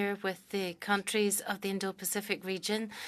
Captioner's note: speaking French